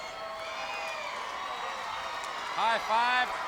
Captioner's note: crowd cheering